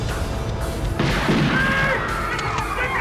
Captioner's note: gunshots; screaming